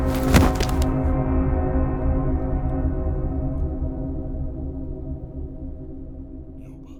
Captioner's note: Sound of Yoba collapsing. Dizzying music